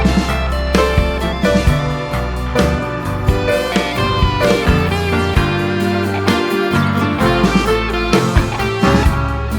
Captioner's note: laugh